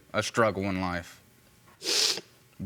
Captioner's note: sniffles